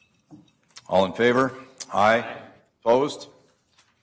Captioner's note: multiple voices